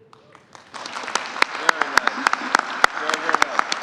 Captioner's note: applause